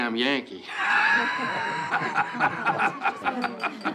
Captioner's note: Bill laughing; party goers chattering